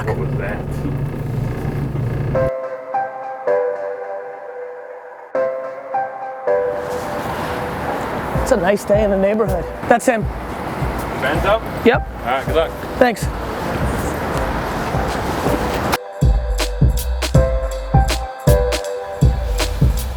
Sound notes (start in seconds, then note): 0.3 voiceover; 7.0 traffic noise